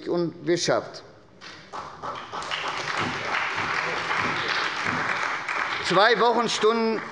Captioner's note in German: Beifall bei Abgeordneten der SPD